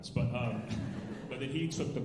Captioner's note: alumni laughing